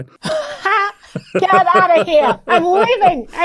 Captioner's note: laughs